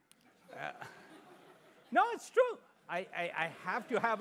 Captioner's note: laugh